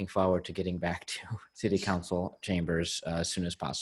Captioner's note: chuckles